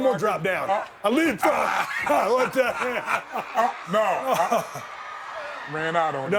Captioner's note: laughing